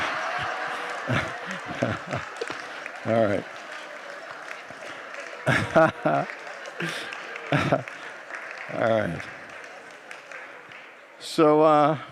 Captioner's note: congregants laugh; laughs